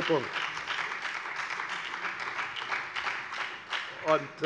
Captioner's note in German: Beifall bei der FDP und der SPD